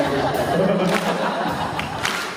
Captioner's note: Jensen laughs